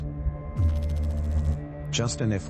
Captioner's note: electrical noise